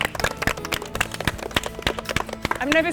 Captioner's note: applause